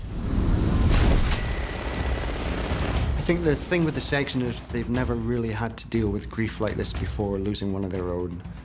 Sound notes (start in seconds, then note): 0.9 gunfire